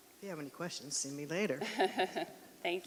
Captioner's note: laughing